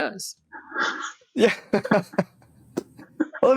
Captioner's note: laugh